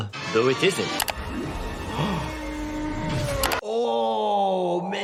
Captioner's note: doctor gasps